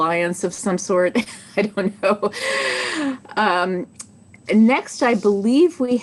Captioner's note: chuckles